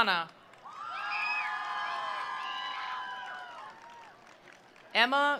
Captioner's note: attendees applauding; attendees cheering